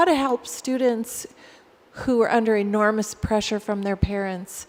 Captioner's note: none